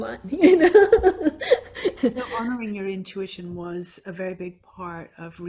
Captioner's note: laughs